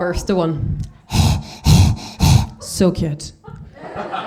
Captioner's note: panting